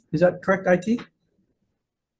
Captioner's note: none